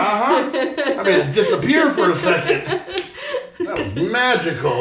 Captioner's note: laughing